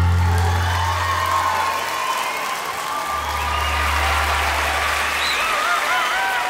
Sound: Gritos y aplausos

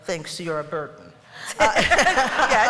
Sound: laughter

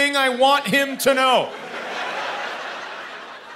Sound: laughter

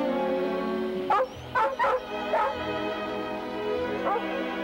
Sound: barking

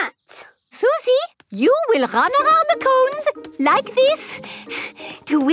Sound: panting

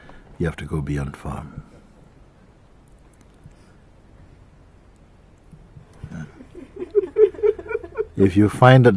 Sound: laughter

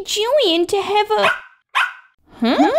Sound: bark! Bark!

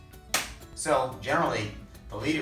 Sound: hand smacking

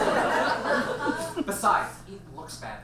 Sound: audience laughs

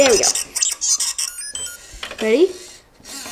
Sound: droid chirping

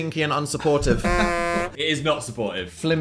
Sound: horn blows

